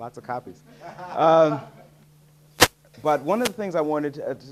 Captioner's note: audience laughing